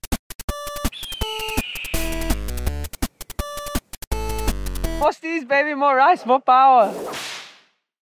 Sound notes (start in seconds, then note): 0.9 falcon screech; 5.1 speaking in foreign language